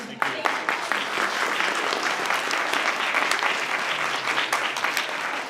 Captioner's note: audience applauding